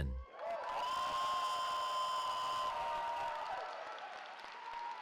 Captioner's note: cheering